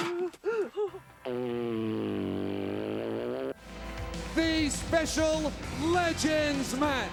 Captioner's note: laugh